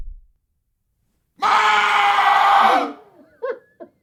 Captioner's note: McDonald loudly shouting; Mrs. McDonald distantly laughing